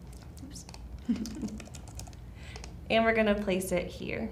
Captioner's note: both chuckling